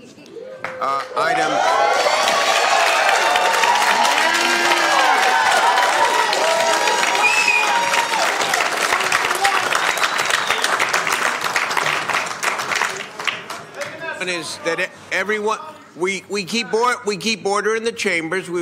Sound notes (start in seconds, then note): 7.8 cheering/Applause